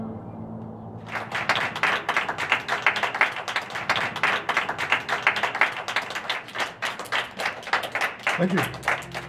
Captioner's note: applause